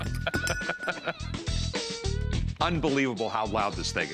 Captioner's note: laughing